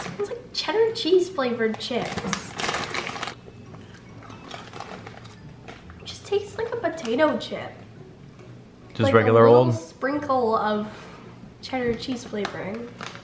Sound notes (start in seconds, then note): 1.6 bag crinkling; 4.0 chip crunching